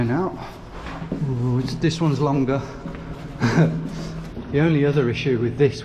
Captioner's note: chuckles